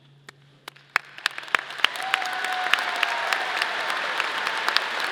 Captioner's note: audience applauding